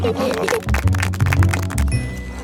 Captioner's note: laughing; clapping